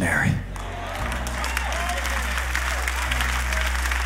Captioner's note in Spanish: Aplausos